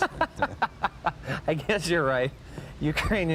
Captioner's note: laughing